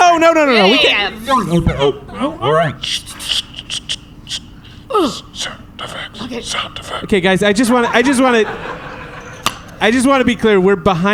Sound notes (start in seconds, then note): 4.9 grunts; 5.8 whispering to himself